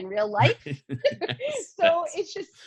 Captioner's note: laughs